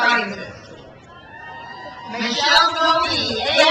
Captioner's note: crowd cheers